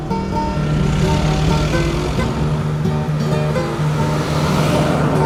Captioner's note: city sounds